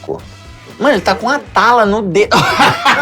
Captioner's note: risos